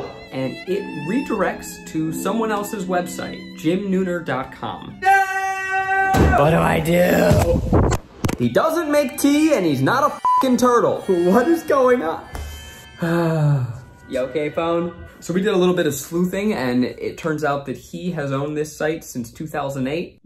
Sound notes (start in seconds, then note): 9.9 beeps; 13.0 sighing